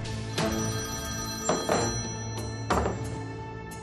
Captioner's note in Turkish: Telefon zil sesi